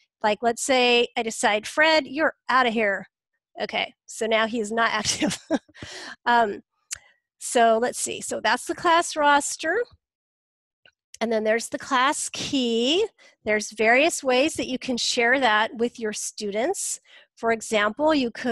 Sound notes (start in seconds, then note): 5.1 laughs